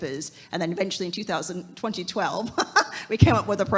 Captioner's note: laughs